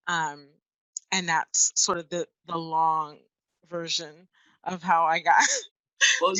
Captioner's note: laughs